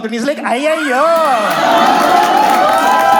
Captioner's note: exaggerated Tamil accent